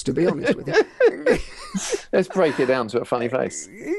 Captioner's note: laughing